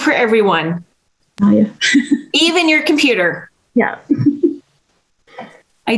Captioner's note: giggles